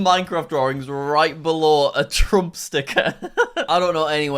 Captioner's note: laughing